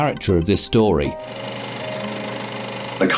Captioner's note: sound of projector